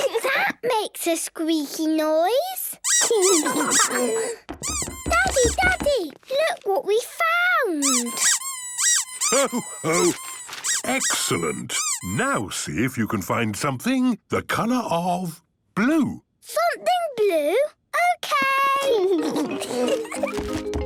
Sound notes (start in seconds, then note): 2.8 squeaking; 7.8 squeaking